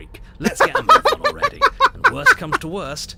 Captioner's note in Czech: smích